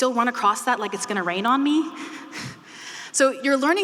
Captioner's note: chuckling